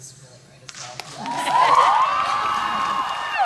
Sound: cheers

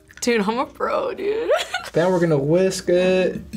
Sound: laughs

